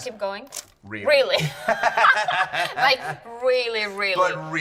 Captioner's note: laughing